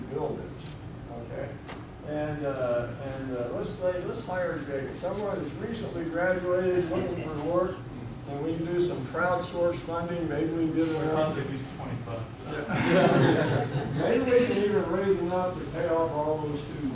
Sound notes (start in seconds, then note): 10.3 student mumbling; 12.6 audience laughing